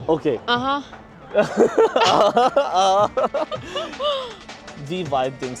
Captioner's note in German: gelächter